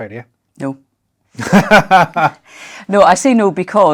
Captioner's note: laughter